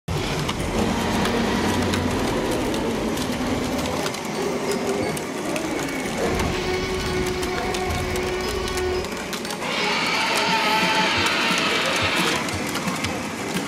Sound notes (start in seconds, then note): 0.5 dinosaur roars; 3.4 toy car engines whizzing; 6.4 dinosaur roars